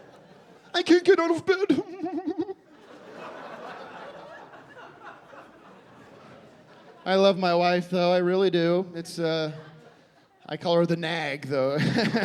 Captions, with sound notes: "I can't get out of bed." [mockingly sobbing] I love my wife, though. I really do. It's a... I call her the nag, though.